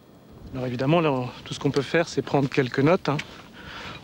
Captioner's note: French spoken audio